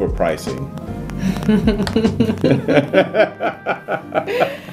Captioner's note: laughing